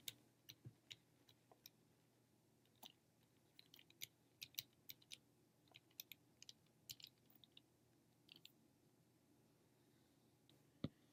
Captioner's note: typing